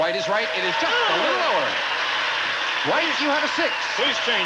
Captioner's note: audience applauding